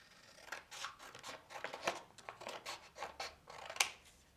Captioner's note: scissors snipping